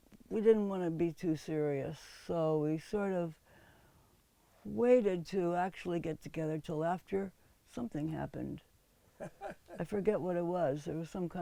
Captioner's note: laughs